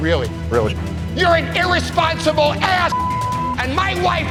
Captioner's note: beep